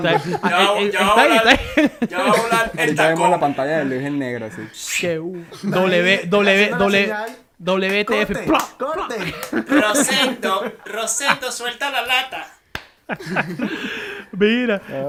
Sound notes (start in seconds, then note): 8.1 laughs